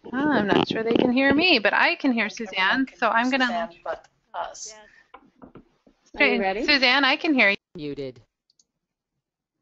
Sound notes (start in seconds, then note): 7.7 voiceover